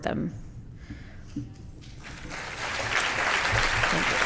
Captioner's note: applause